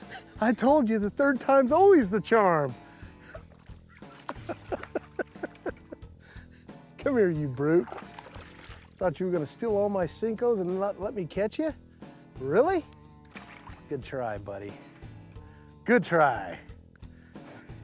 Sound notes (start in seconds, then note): 0.0 laughs; 3.9 laughs